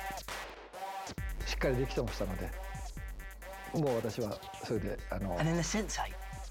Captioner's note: speaking Japanese